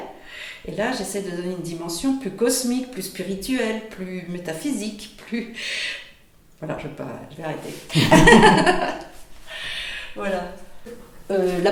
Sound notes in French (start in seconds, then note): 7.9 rires